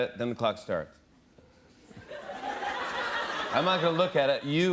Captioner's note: laughter